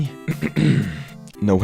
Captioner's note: clears throat